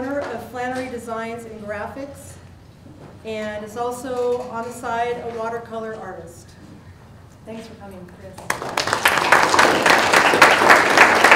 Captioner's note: applause